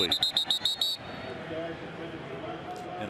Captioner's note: whistle blasting